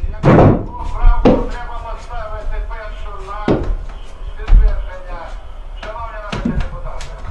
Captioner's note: radio